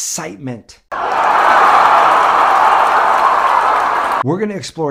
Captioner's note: crowd roaring